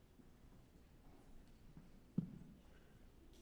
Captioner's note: none